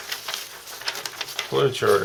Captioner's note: rustling paper